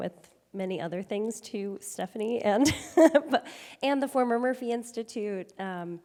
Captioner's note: chuckles